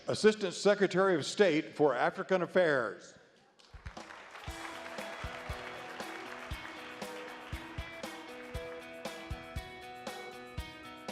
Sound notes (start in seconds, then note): 3.7 audience applauds; 4.4 upbeat music